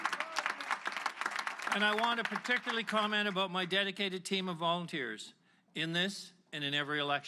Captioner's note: applause